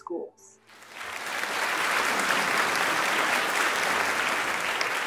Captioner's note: audience clapping